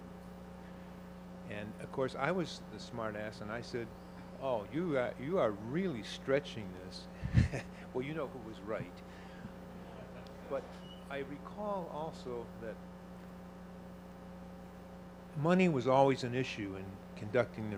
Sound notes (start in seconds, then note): 7.2 chuckles